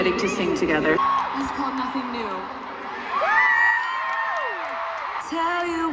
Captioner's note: screaming again